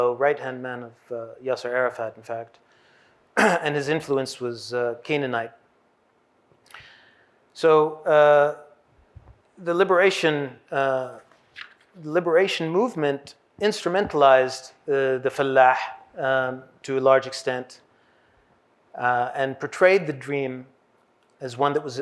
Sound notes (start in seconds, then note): 15.1 hebrew